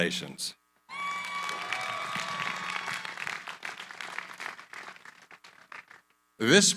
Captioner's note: cheering, applause